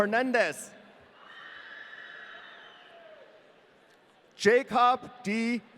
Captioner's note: audience cheering